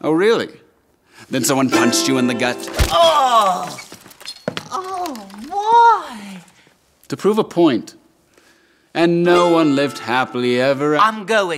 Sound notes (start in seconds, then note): 3.0 groaning